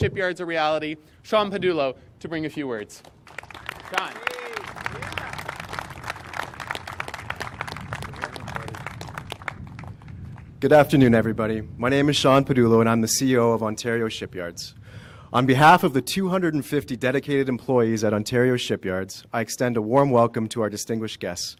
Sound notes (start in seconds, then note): 5.0 applause